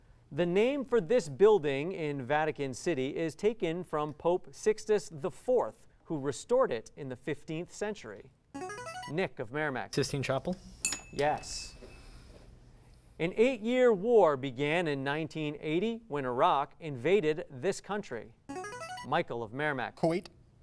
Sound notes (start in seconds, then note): 8.4 ringing; 10.8 ding; 18.2 ringing